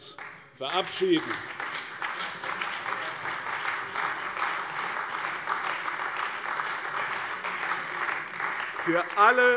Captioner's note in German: Beifall bei der CDU und dem BÜNDNIS 90/DIE GRÜNEN